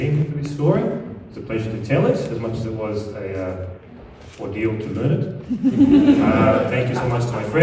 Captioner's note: laughter